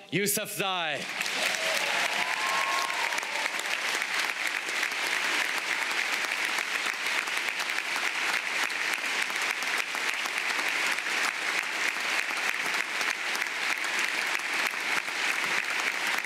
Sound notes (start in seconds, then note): 5.2 applause